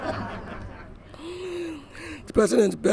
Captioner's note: laughter